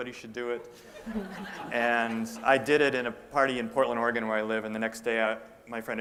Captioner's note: laughter